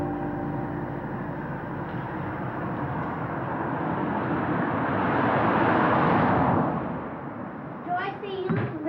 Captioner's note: sound of cars on the street